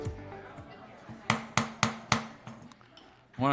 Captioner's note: gavel